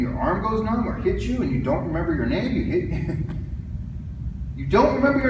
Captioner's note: chuckles